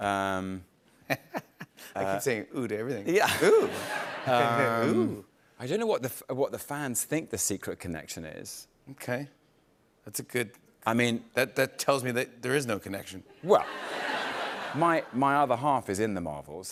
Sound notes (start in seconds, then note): 0.7 laughs; 3.2 chuckles; 13.5 laughter